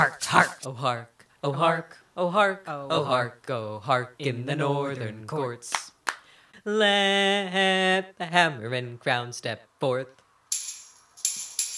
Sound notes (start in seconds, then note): 6.0 two claps